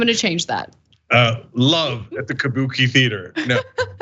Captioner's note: laugh